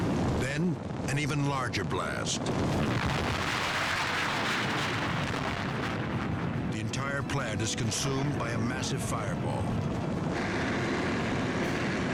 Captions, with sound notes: Then, an even larger blast. (explosion booming) The entire plant is consumed by a massive fireball.